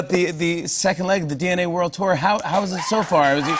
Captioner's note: cheers and applause